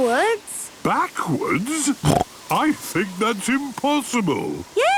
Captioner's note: snorting